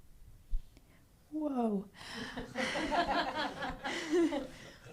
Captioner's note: laughs